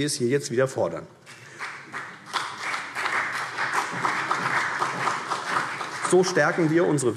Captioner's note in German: Beifall CDU